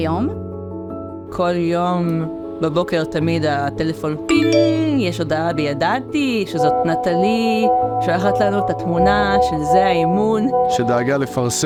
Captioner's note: ping